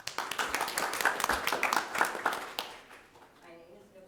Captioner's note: audience applauding